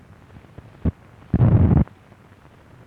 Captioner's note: static